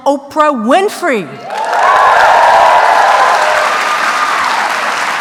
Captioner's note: applause